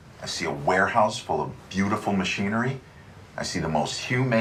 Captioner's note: none